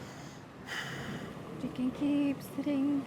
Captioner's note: sighing